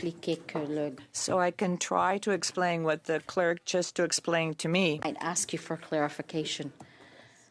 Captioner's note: speaking French